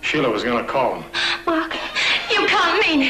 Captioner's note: gasp